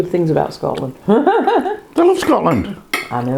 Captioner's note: laughs